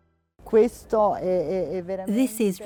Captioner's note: speaking in foreign language